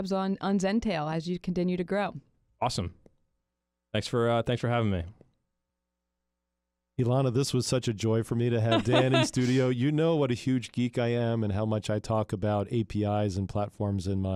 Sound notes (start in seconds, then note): 8.7 chuckles